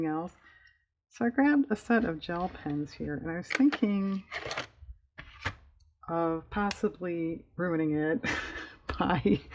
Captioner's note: laughs